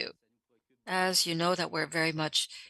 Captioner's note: speaking French